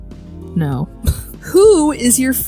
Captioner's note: wheeze